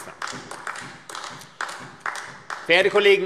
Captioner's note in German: Beifall AfD